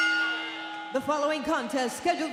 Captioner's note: bell ringing